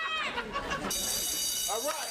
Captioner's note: bell rings